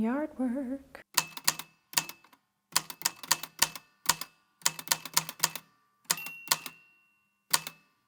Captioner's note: the typewriter clicks and clacks away, with dings here and there